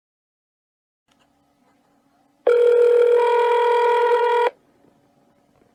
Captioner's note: phone ringing